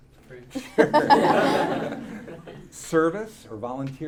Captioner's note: audience laughing